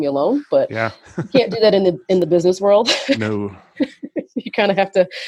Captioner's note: laughs